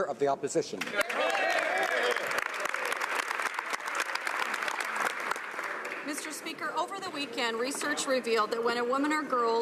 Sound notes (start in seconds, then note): 1.7 speaking French; 4.4 some Applause